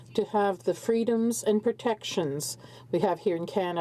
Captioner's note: speaking French